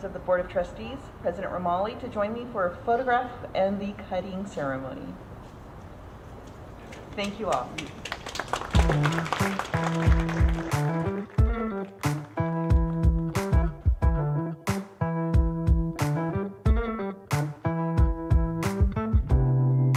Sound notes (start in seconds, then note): 6.8 audience clapping; 9.7 upbeat instrumental music